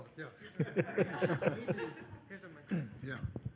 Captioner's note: laughs